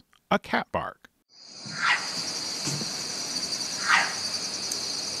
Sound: loud cat bark

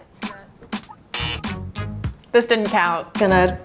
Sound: beep

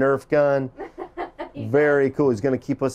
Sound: laughing

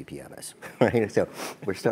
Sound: laugh

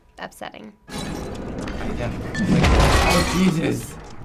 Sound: pottery shattering

